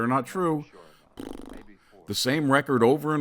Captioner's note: blows raspberry